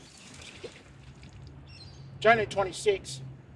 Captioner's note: water splashing; birds chirping